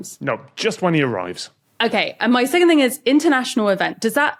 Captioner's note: none